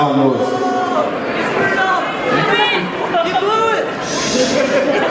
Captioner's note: crowd